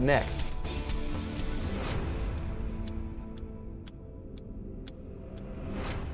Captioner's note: clock ticks; dramatic music